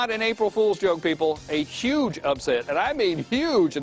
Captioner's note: laughter